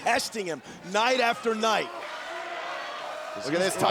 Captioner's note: crowd cheering